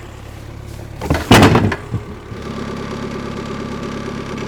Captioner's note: wood clanks; skid-steer idling